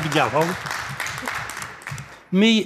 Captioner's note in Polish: oklaski